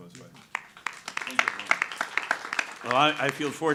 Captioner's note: audience applauding